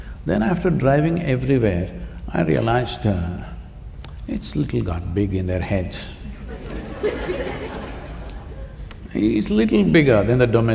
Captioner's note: laughter